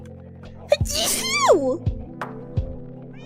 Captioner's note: sneezes